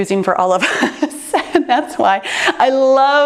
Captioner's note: laughs